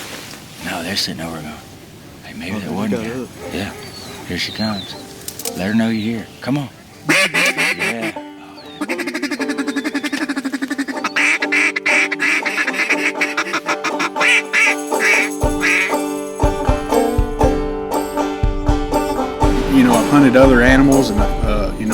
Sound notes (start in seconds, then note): 6.9 quacking